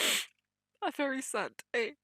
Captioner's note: sniffs